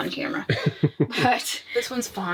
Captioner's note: laughing